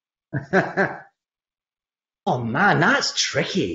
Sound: laughs

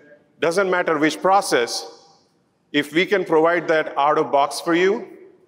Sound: none

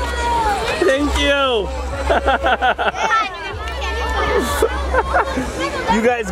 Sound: laughs

